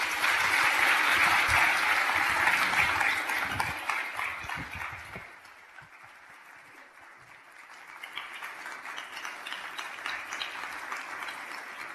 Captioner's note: applause